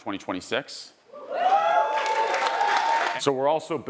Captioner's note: audience cheering